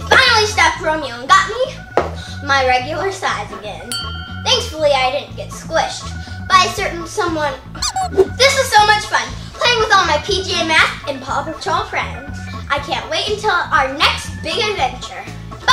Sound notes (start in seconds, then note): 3.9 bell chimes; 7.8 toy squeaking